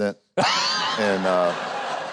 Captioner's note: Huckabee and the audience laughs